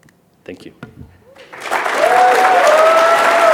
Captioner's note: cheers and applause